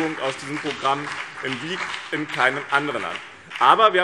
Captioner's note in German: Beifall BÜNDNIS 90/DIE GRÜNEN und CDU